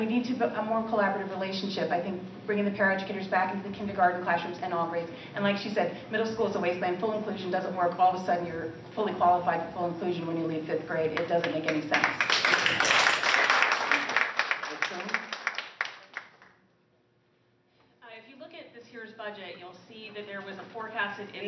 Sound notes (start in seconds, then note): 14.1 applause